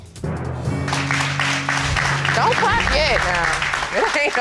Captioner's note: crowd clapping